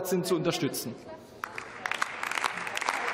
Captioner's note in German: Beifall